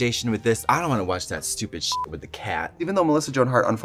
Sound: beep

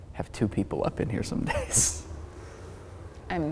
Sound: chuckles

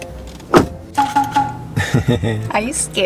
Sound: laughing

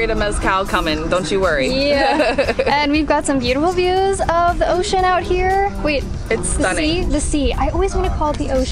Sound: laughs

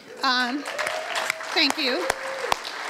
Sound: applause

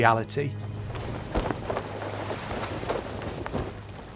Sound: sail fluttering

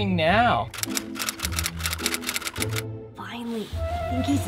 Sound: typewriter keys clicking

